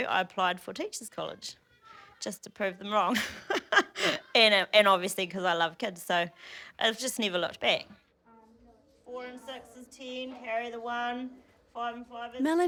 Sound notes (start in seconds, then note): 3.1 laughs